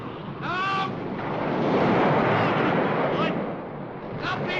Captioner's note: ocean roars; wind howls